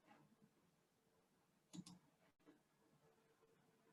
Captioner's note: mouse clicking